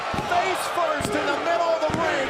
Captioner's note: crowd cheering